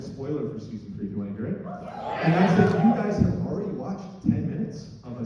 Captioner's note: affirmation from crowd